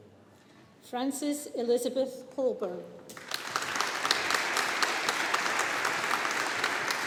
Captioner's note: audience applauding